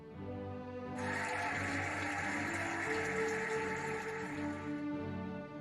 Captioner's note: cheering and applauding